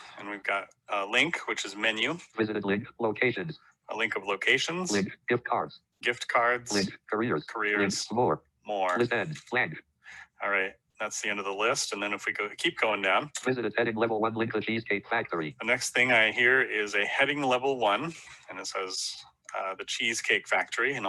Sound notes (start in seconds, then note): 2.4 automated Voice; 5.0 automated Voice; 7.2 automated Voice; 13.4 automated Voice